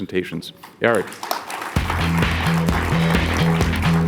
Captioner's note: audience applauds; upbeat music